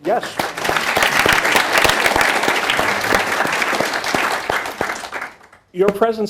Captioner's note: applause